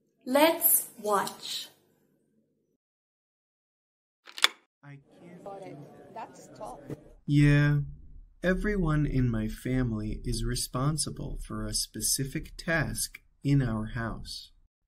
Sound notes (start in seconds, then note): 4.2 sonido de una puerta al abrirse; 5.3 sonido de una conversación indistinta